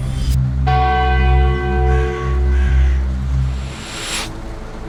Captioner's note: bell ringing